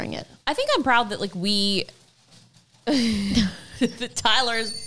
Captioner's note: both laughs